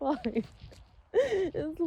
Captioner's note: sobs lightly through words